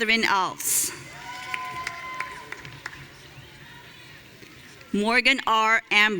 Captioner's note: audience cheering